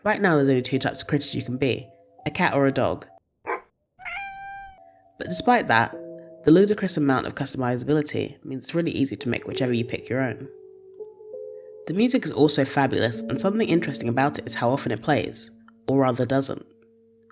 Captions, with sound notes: Right now there’s only two types of critters to be a cat or dog *woof* *maow* but despite that the ludicrous amount of customisability means it’s really easy to make whichever you pick your own. The music is also fabulous and something interesting about it is how often it plays or rather doesn’t.